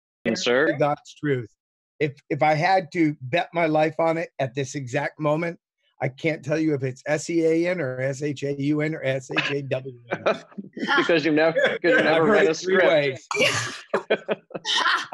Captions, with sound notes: -truth, if, if I had to bet my life on it, at this exact moment, I can't tell you if it's S-E-A-N or S-H-A-U-N or S-H-A-W-N. [laughs] - It's because you, you never read a script. - I've heard it three ways. [laughs]